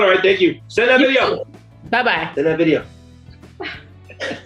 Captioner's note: laughs